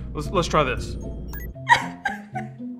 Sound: button beeping; sobs

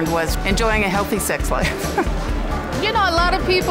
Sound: laughing

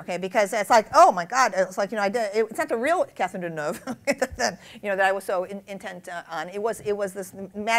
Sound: laughs

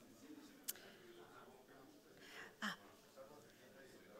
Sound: audience chatting

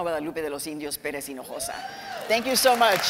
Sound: cheering

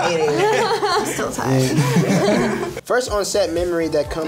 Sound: others laugh

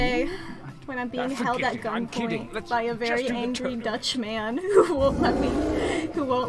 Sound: laughs

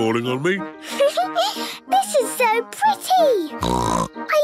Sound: Peppa laughing; snorting

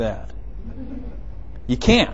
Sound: laughing

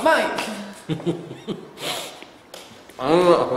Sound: chuckles

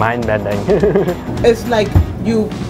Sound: chuckles

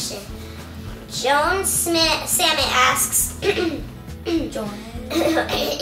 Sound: coughs

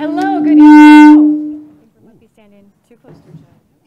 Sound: feedback sound

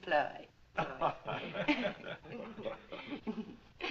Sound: laughs

